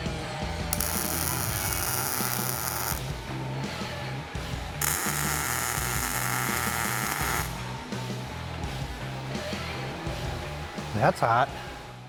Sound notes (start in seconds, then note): 0.7 torch sizzling; 0.9 upbeat rock music